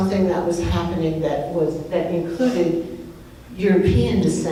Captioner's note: none